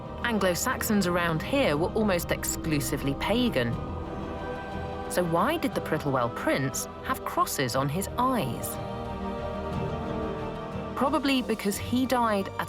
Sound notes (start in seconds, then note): none